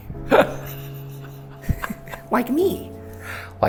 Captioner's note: laughing